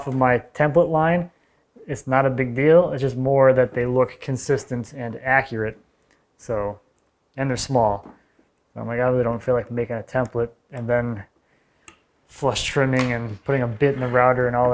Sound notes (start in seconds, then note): none